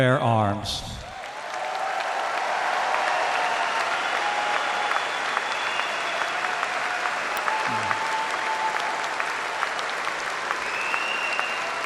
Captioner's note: applause